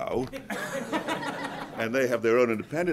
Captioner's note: group laughs